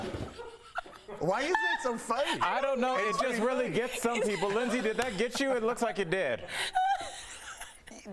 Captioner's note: goats screaming